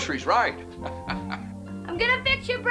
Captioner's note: Joe laughs